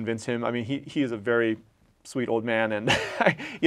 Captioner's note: laugh